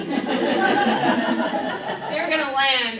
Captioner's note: laughing